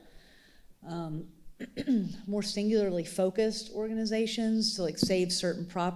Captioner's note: clears throat